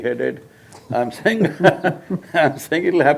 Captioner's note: both laugh